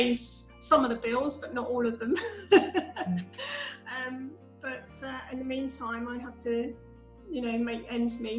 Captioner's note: laughs